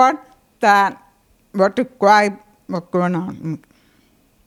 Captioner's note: quieter